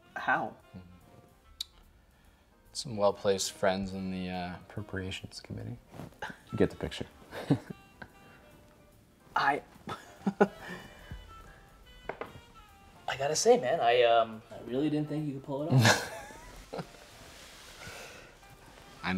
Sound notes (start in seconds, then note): 9.8 chuckling; 15.6 James laughing